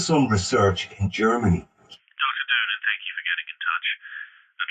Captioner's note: on phone